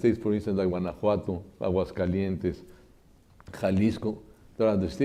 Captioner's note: speaks Spanish